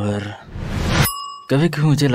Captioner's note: Desk bell ringing